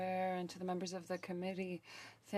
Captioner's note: speaking French